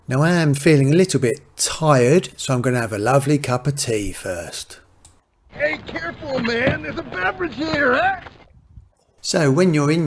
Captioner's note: laughs